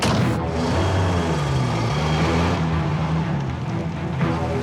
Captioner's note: car door slams